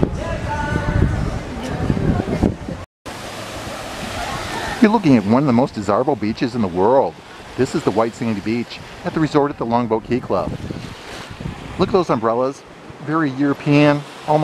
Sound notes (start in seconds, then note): 0.0 wind gusting; 3.2 waves whooshing